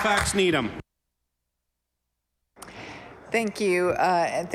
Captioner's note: applause